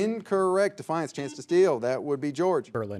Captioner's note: buzzer beeps